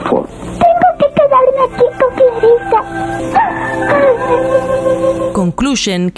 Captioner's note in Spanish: Llora